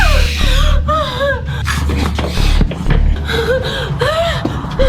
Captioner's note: creature squealing; Sheila whimpering